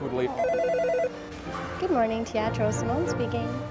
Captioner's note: phone rings